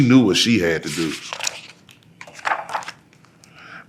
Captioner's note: pages rustling